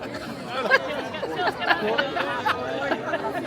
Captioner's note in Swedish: skratt